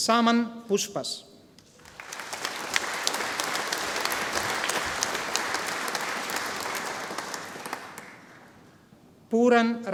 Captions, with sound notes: Saman Poushpas. (audience applauding)